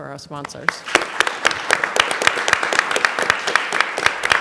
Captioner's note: applause